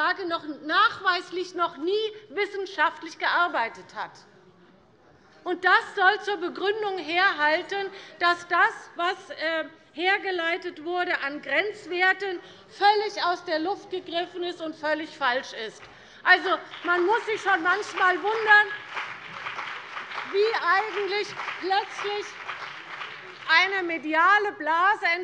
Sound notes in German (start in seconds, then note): 15.9 Beifall CDU und BÜNDNIS 90/DIE GRÜNEN